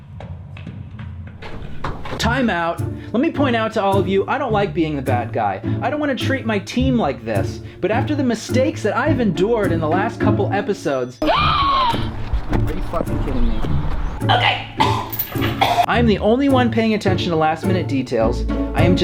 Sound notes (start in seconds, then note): 11.3 off-camera gasping; 13.5 choking